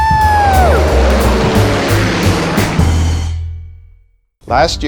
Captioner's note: engine roars